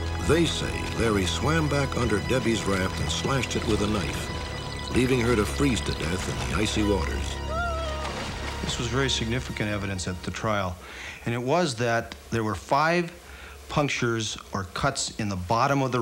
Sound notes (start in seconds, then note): 7.4 crying